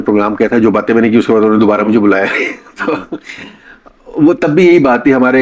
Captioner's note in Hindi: हंसी